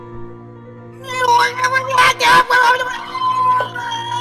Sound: witch screams

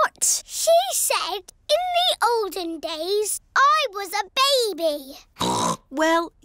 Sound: snorts

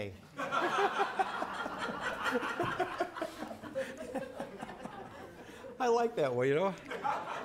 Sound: laughter

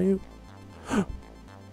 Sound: gasps

